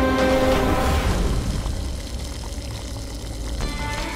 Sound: oil sizzling

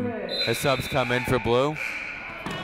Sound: whistle blowing; buzzer sounding

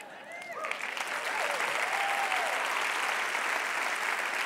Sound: applause

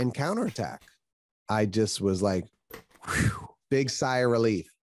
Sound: exhales

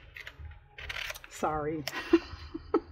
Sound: laughs

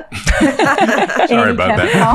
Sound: all laughing

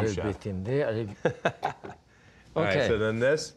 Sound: laughs

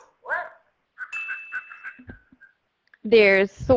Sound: bell ringing; voiceover

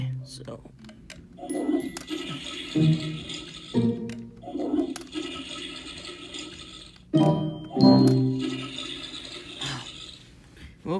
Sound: ASMR Toilet Noises

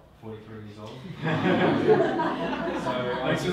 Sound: audience laughing

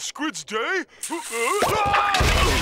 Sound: groaning

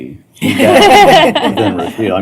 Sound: laughter

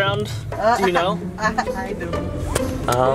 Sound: driver chuckles

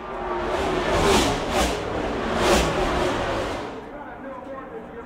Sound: cars whooshing

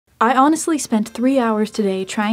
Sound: voiceover

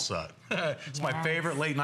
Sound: laughter

